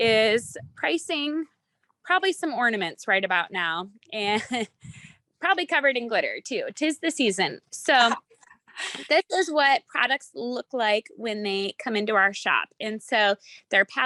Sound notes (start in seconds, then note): 4.3 chuckles